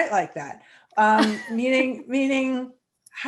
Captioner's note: laughs